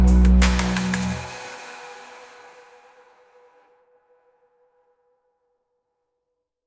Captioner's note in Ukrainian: оплески